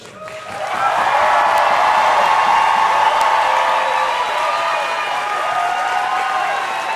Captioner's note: audience applauding and cheering